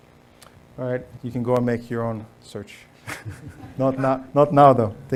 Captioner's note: laughs